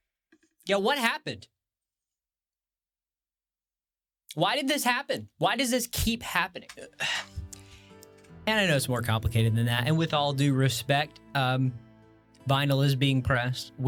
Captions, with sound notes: Yo, what happened? Why did this happen? Why does this keep happening? *groans* And I know it's more complicated than that. And with all due respect, vinyl is being pressed.